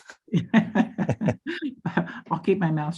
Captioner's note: laughs